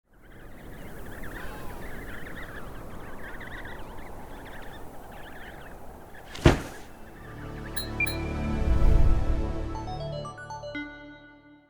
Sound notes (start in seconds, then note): 0.0 wind blowing; 0.3 baby penguins chirping; 6.1 metallic "blink" sound effect; 6.1 musical drone; 6.3 loud thud; 7.8 short uptempo melody; 8.4 whoosh